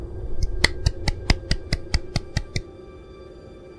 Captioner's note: clapping